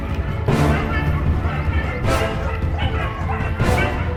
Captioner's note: dogs barking